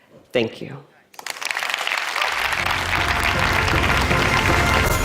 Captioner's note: audience applauds